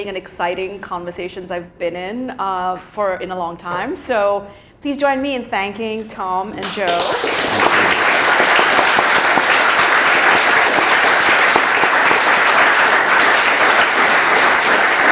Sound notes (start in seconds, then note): 6.6 audience applauds